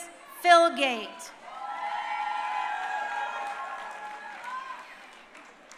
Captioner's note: crowd cheering